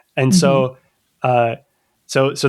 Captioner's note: uh